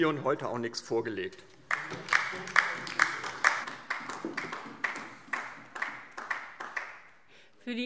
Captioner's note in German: Beifall DIE LINKE